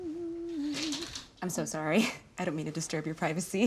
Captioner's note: laughs